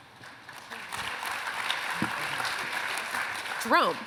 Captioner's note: applause